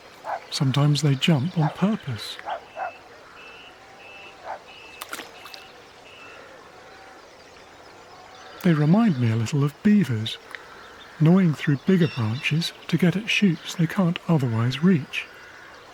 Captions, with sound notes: Sometimes they jump on purpose. [Dog barks] [Splash] They remind me a little of beavers, gnawing through bigger branches to get at shoots they can’t otherwise reach.